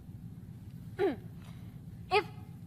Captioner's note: clears throat